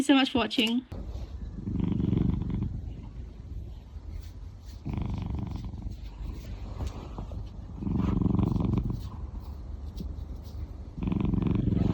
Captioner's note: loud purring